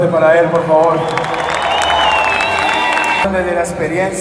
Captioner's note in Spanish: aplausos